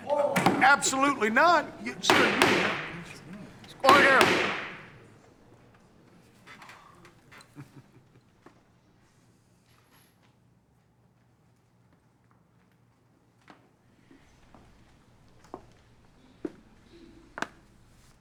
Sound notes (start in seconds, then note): 2.9 gavel thumping; 5.7 gavel thumping; 7.5 Kane chuckling